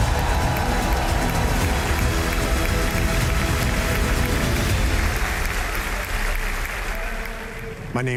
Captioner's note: applause